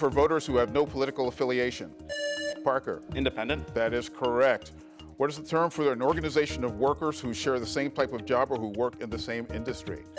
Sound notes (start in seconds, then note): 2.0 buzzer rings